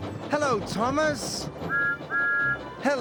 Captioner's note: toot toot